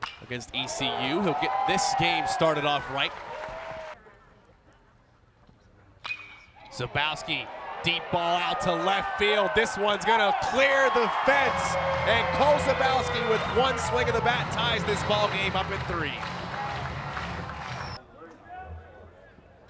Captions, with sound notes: Against ECU, he'll get this game started off right. Zabowski. Deep ball out to left field, this one's gonna clear the fence, [crowd cheering] and Cole Zabowski, with one swing of the bat, ties this ballgame up in three.